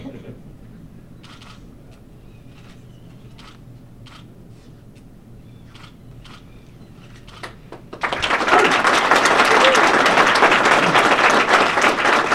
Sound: clapping

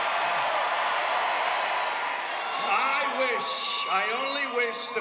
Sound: cheers and applause

